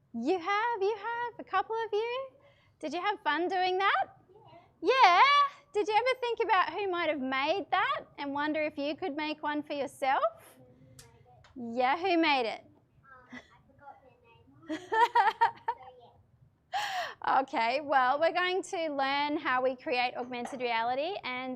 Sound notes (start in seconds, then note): 14.6 laughs